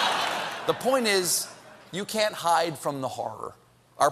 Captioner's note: laughter